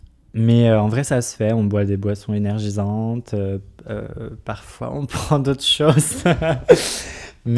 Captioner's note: laughs